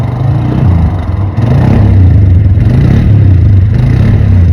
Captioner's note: ATV engine reeving